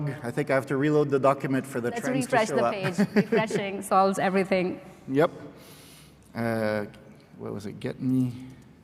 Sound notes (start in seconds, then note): 2.5 laughs